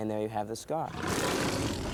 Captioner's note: roaring